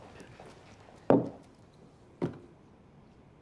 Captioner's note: thud